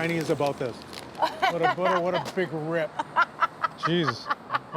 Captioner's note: laughs